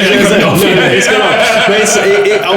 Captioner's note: group laughing